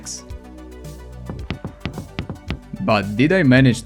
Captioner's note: steps